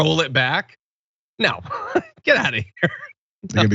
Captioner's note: laugh